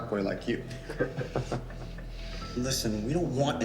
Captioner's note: all laughing